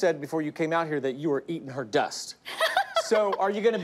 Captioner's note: laughs